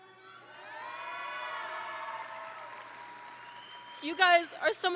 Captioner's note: audience applauds and cheers